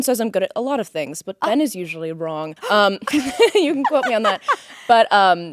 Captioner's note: Courtney gasps